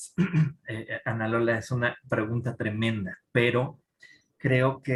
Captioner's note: speaking in Spanish